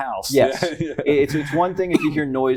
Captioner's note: laughter